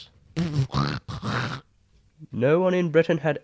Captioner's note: camel snorting